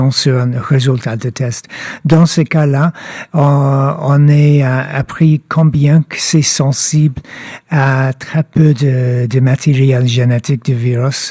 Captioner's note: speaking French